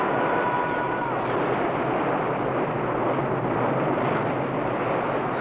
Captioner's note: waves crashing